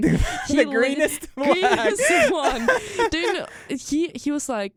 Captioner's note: both laugh